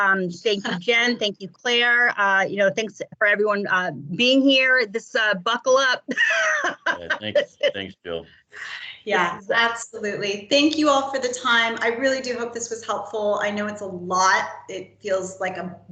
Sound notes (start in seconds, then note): 6.0 laughs